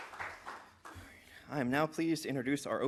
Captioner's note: applause